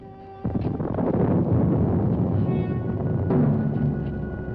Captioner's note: thunder rumbling